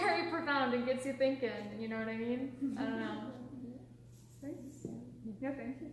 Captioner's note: laughing